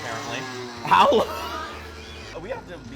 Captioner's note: both laughing